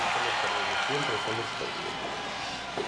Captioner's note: crowd cheering